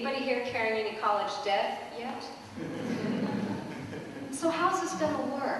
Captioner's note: laughter